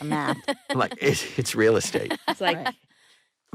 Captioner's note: chuckling